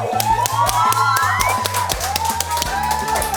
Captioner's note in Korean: 쏟아지는 박수갈채